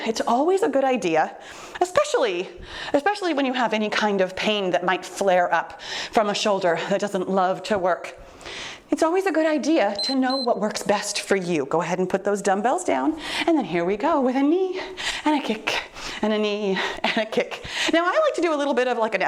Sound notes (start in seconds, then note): 9.9 timer beeps